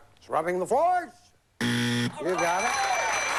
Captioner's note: buzz